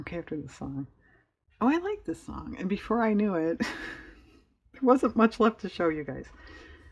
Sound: laughs

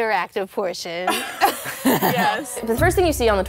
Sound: everyone laughs

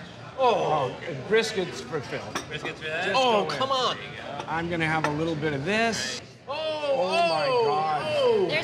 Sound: none

